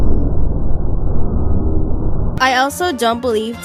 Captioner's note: droning sound